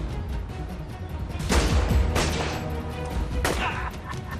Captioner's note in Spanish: Disparos; Risas